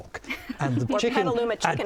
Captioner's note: laughing